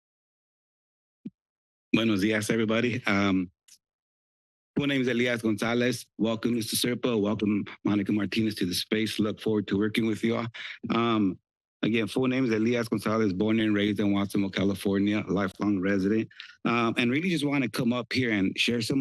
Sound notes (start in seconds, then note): 0.1 silence; 2.1 foreign language